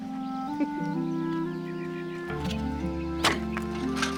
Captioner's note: laughing; soft music